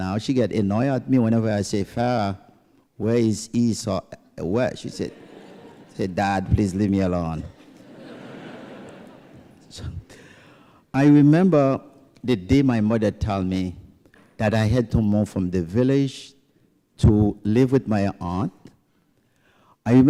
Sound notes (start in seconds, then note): 7.5 laughter